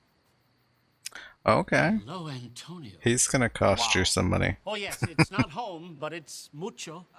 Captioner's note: chuckling